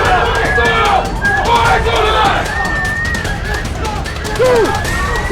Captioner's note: people screaming